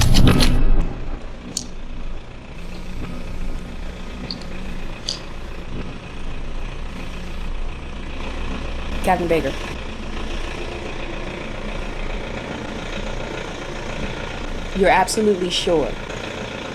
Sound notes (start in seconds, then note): 3.1 phone ringing